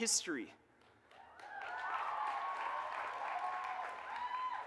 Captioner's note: audience cheers and applauds